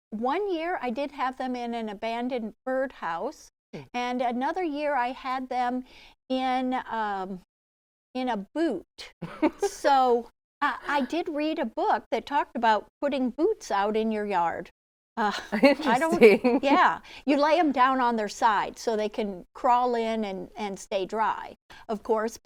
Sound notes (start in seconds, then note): 9.2 laughing; 15.2 chuckles; 15.2 laughing